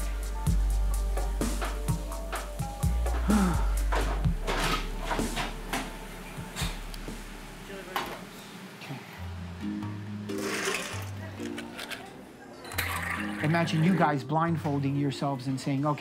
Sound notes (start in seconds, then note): 3.2 exhaling deeply; 10.6 ice rattling; 10.6 soda gurgling